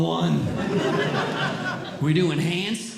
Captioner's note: audience Laughing